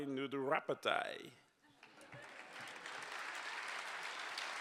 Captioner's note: applause